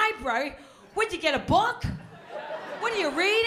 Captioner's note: laughter